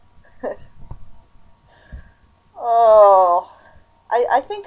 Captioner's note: painful laughter